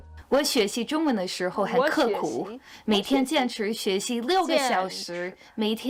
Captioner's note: speaking Chinese